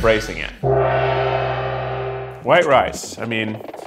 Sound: gong reverberates

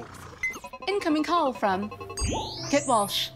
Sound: blooping

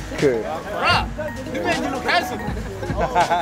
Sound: voiceover; laughter

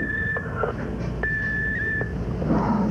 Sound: beep

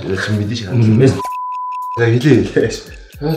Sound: beep

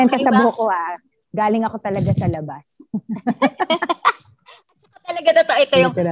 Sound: laughs

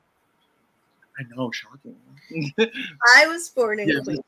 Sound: laughs

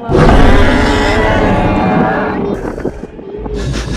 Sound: loud roar

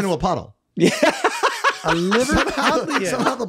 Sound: Glen laughs

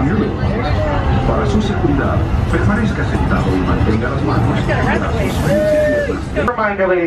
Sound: speaking spanish

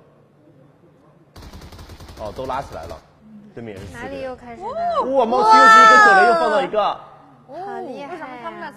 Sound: cheering

